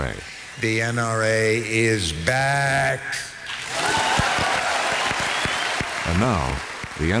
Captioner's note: cheers, applause